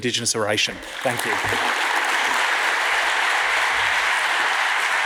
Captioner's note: audience applauds